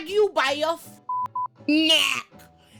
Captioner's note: beep